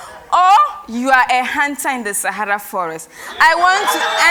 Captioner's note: cheers and Applause